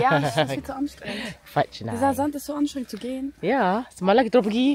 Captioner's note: speaking German